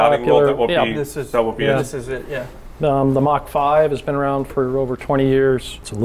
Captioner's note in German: none